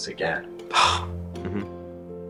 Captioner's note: scoffing